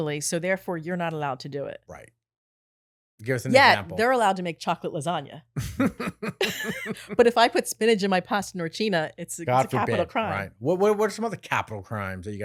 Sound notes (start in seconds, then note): 5.6 laughing